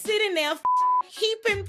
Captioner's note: beep